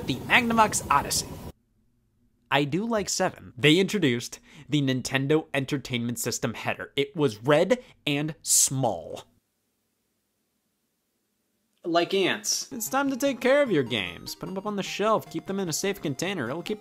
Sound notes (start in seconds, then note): none